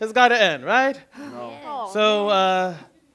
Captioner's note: disappointed responses